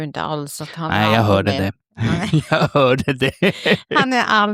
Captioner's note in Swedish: skratt